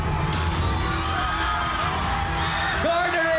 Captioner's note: audience cheering